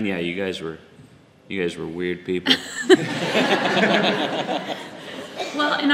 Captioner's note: audience laughs